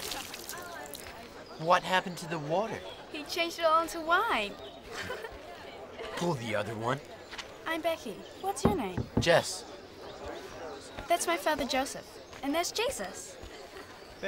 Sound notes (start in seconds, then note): 4.9 Bekky giggles